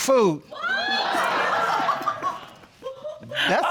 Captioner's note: audience gasping and laughing